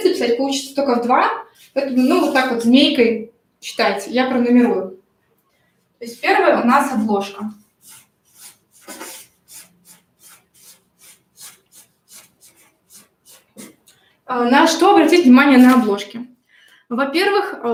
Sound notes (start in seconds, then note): 6.7 скрежет маркера